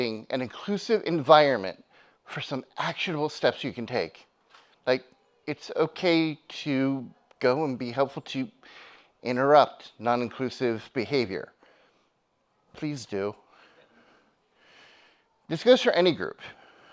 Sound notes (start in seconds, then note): none